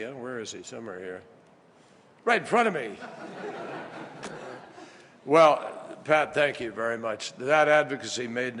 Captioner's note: laughter